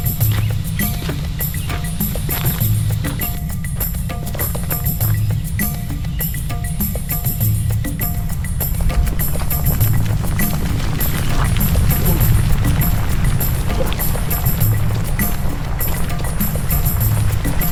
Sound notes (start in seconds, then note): 0.2 light upbeat music; 9.9 rock crumbling; 14.0 light upbeat music continues